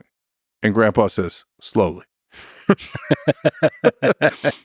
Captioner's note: laughs